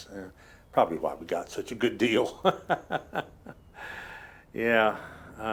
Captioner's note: laughs